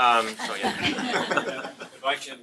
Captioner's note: laughter